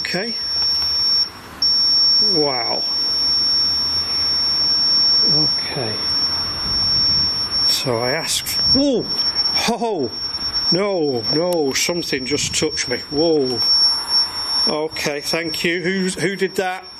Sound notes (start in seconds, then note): 3.4 feedback squeals